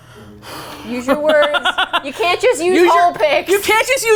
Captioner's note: laughs